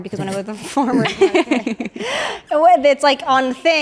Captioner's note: everyone laughs